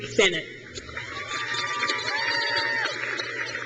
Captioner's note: crowd cheers